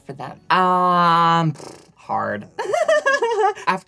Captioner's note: lip trill; laughs